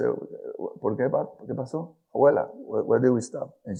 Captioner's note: speaks in foreign language